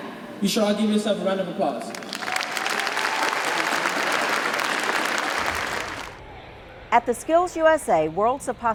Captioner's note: applause